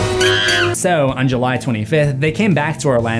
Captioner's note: monkey scream